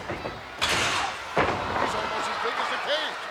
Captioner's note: body thuds; cage slams